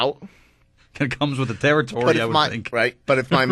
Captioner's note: laughs